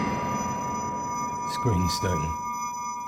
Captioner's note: memory image whooshes; high-pitched tone ringing